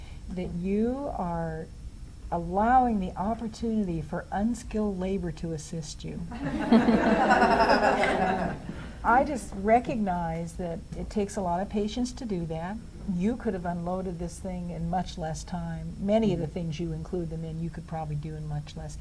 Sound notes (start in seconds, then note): 6.3 laughter